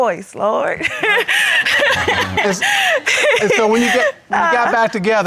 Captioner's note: laughing